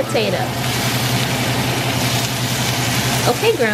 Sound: steak sizzling

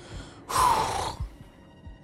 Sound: exhales

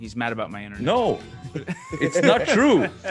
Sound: laugh

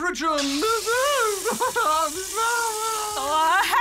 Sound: wails

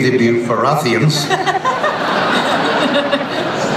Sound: laughter

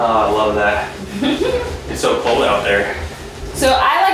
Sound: laughing

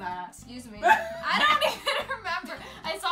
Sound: laughs

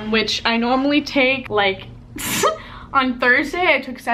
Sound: laughs

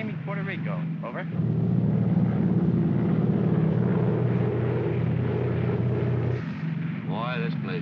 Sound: aircraft rumbles

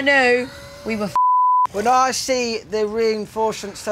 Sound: beep

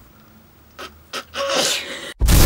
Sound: laughs

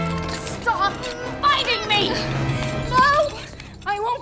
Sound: chain clattering

